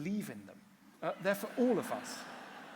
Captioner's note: laughter